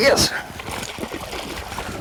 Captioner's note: splash